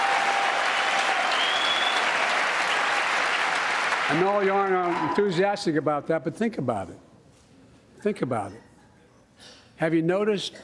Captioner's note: applause